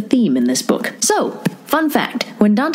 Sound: hits table

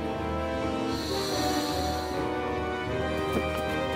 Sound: breather ventilates

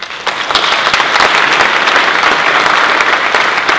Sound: applause

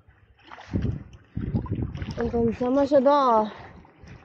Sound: paddling

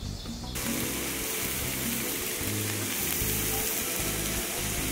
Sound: butter sizzles

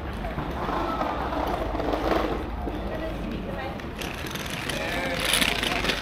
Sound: people chattering

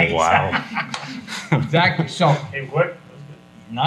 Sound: folks laughing

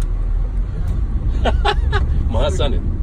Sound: laughs

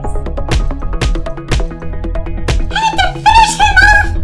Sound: punching

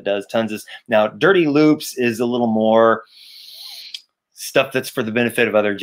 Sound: inhales deeply

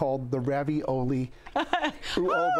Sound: laughs

